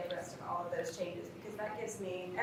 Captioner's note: faintly speaking